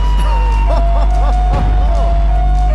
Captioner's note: laughs; suspenseful music